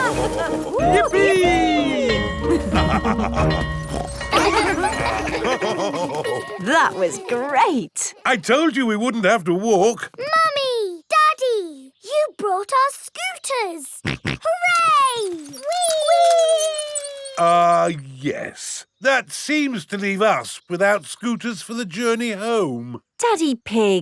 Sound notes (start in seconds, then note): 0.0 both laughing; 2.6 school bell ringing; 3.5 daddy pig snorts; 5.5 children laughing; 5.5 daddy pig laughing; 14.1 snorts